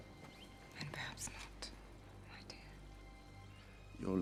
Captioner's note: wh ispers